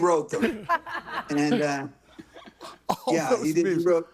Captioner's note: laughs